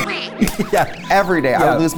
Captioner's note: laughs